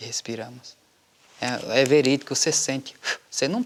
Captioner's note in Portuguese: Sopro